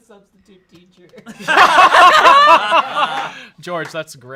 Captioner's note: everyone laughs